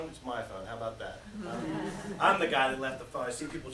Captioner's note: laughter